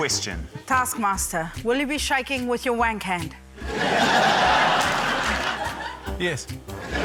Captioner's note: laughter